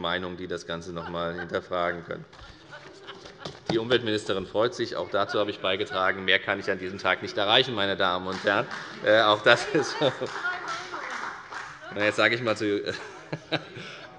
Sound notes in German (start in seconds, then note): 2.4 Lachen der Ministerin Priska Hinz